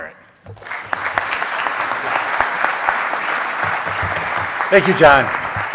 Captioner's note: audience applauding